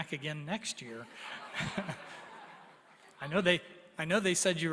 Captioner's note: laughter